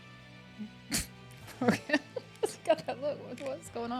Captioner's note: chuckles